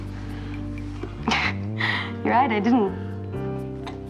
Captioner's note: chuckles